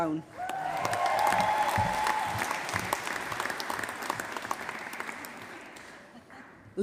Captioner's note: applause